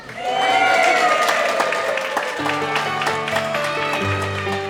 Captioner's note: cheering